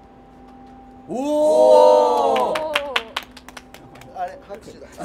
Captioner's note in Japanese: 拍手